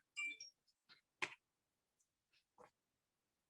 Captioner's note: bell rings